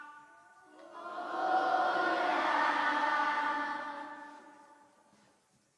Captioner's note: echo